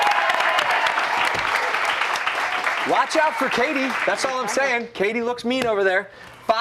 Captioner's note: cheers and applause